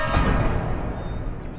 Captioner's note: birds chirping